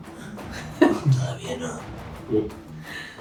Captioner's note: whispers